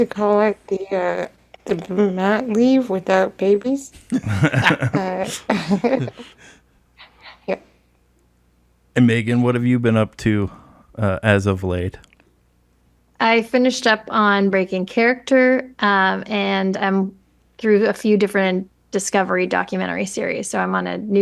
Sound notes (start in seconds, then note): 3.9 laugh; 5.9 laughs